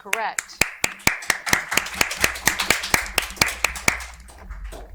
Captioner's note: audience applauding